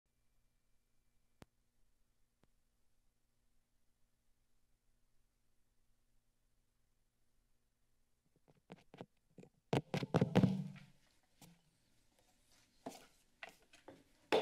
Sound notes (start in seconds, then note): 0.1 silence; 9.7 mic tapping; 10.7 silence